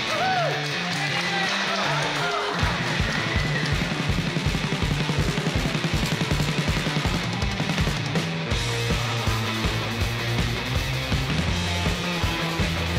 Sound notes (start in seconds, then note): 1.9 crowd cheering; 1.9 crowd clapping; 3.9 vigorous rock music